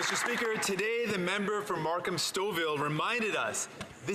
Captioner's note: some Applause